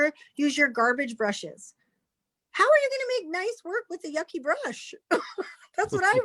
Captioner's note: chuckles